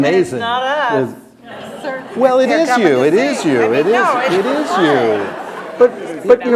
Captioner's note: laughter